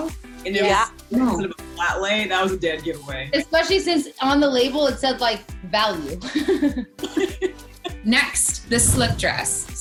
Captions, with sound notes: - Yeah. - It was sort of a flat-lay, that was a dead giveaway. - Especially since on the label it said like "value". (laughs) - Next, the slip dress.